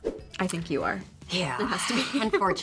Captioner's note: graphics swoosh; Brianne sighs